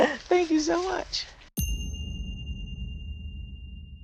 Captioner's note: bell dinging